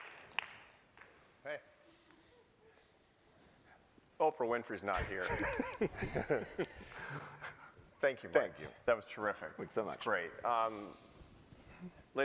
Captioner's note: applause